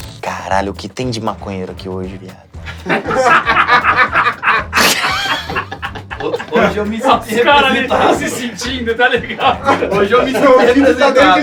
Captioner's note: risos